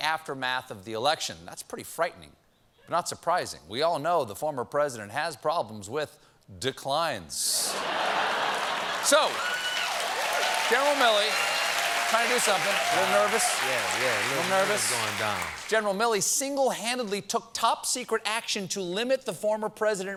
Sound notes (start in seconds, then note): 7.6 laughter; 7.8 cheers and applause